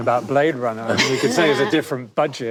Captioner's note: panel laughs